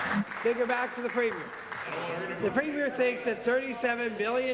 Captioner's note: applause